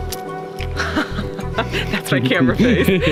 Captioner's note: laughing